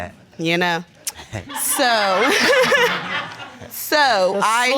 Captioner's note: laughs